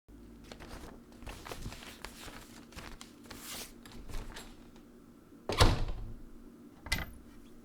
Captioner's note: folding paper noise... the door opens and closes